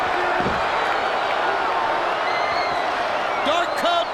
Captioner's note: crowd boos